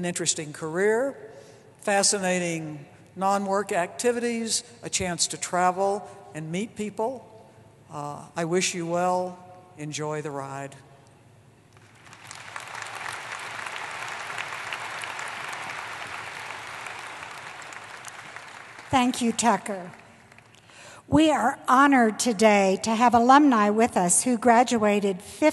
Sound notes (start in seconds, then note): 11.7 applause